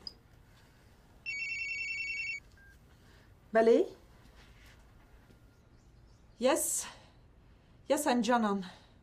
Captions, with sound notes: [phone ringing, beeps] Hello? Yes? Yes, I am Janan.